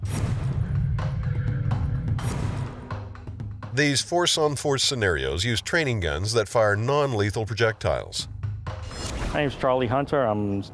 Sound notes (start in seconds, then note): 0.2 dramatic music playing; 8.8 dramatic transition noises